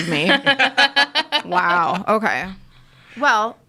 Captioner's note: people laughing